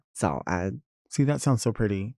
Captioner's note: Nymphia speaking in a foreign language